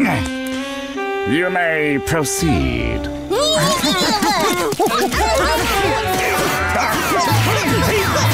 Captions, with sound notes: You may proceed. [grunting]